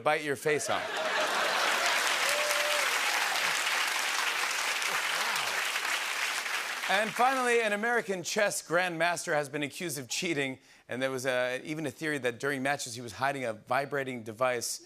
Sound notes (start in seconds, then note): 0.9 applause